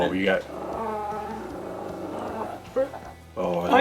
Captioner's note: Daisy growls